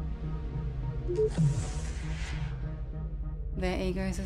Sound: door beeps and whooshes

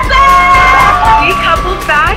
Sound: cheering

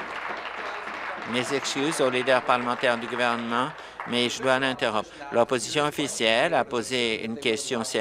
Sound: applause

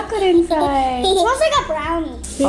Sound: giggles

